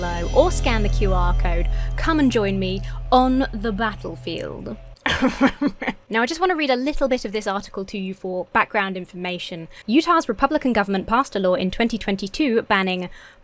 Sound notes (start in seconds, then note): 5.0 laughs pretentiously